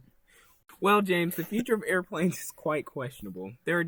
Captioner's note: laughs